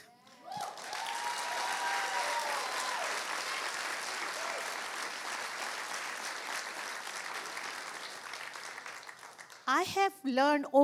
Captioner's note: cheering and applause